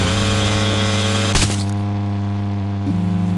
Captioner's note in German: Schlag, fernes Motorendröhnen